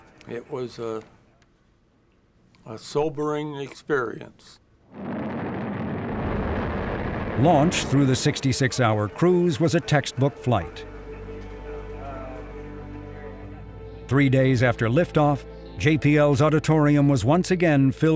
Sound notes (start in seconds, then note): 4.9 rocked engines roaring